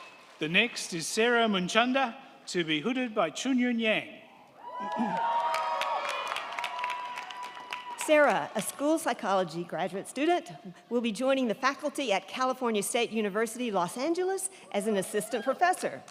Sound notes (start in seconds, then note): 4.5 crowd cheering; 4.7 crowd clapping